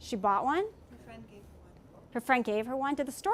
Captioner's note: speaking from off mic